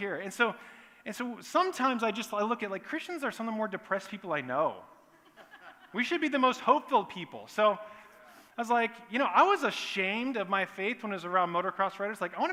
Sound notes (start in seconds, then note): 5.1 laughter